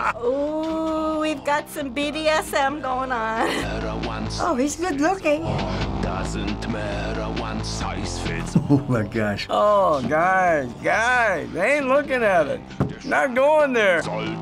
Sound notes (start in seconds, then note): 8.3 chuckling